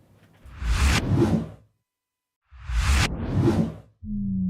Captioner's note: logo whooshing